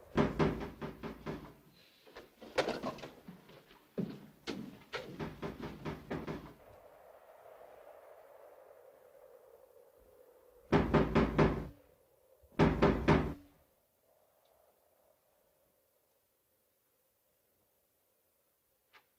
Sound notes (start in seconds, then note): 0.1 banging on door; 5.0 banging on door; 6.7 wind blows; 10.4 banging on door